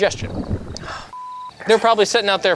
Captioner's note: beep